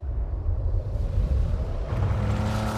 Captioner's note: wind whooshing; engine rev